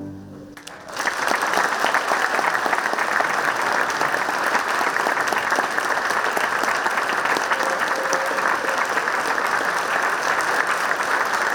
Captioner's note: clapping